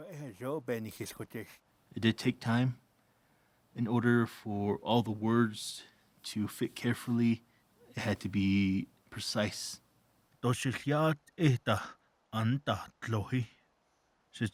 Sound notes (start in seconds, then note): 0.2 speaking Navajo; 10.5 speaking Navajo